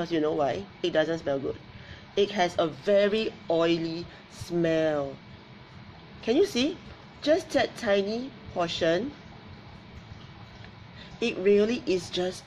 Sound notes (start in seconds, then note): none